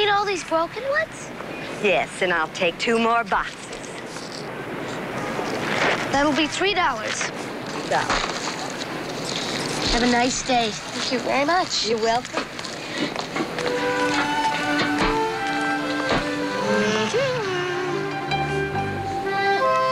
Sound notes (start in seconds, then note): 15.6 hums